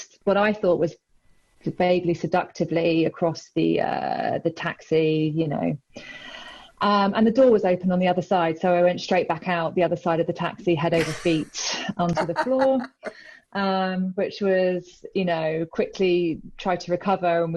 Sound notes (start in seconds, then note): 12.1 laughs loudly